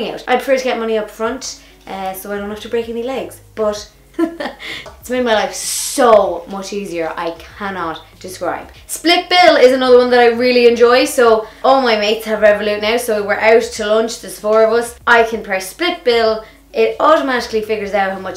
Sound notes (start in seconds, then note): 4.4 laughs